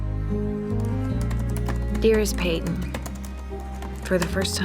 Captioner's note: typing